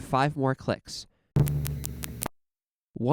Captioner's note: click x5